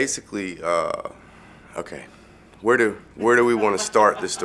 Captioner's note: laughter